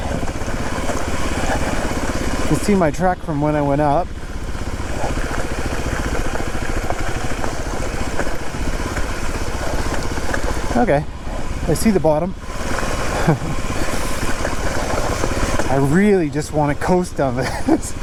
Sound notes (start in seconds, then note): 4.5 bike wheels whirring